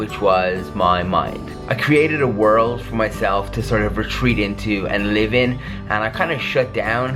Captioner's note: none